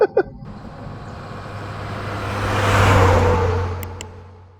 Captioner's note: laughing; truck driving